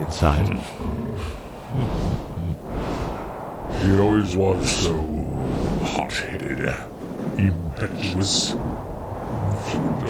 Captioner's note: sigh and chuckle